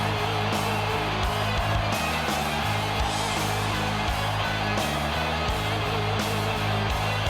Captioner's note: crowd cheering; driving music continues